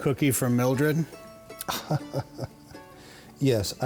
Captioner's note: laughing